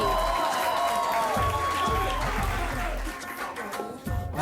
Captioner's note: audience applauding